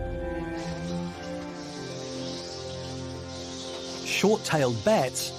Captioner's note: bats screeching